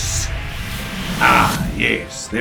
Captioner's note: spellcasting Sound